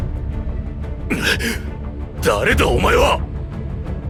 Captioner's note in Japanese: 笑い